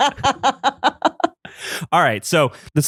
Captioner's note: laughs